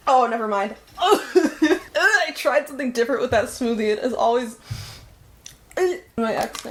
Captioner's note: gags